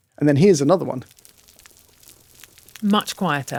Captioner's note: crackling